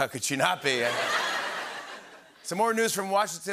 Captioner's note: laughter